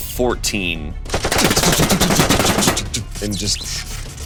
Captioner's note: bullets firing